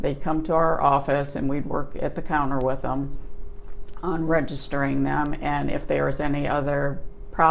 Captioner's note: swallows